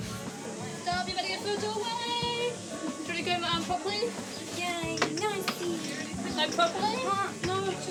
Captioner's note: chatting